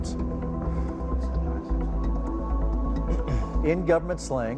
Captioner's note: sighs